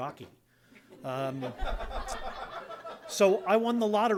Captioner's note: laughter